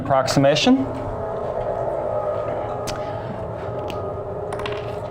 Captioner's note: mechanical humming